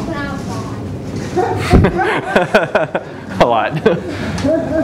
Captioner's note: laughter